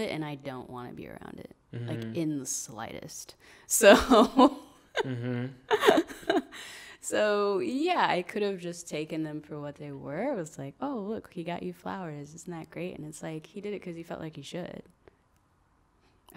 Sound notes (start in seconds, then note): 5.0 laughs